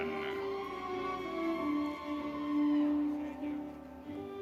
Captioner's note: audience cheering